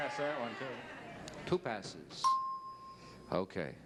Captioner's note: bell ding